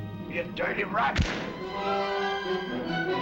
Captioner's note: gun firing; dramatic music